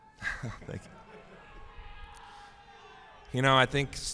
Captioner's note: laughs